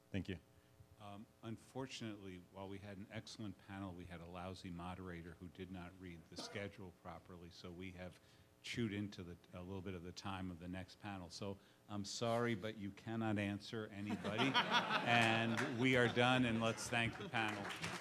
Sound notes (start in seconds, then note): 14.1 laughs; 17.8 audience applause